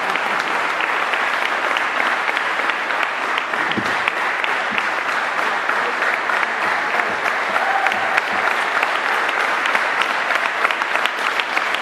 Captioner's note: applause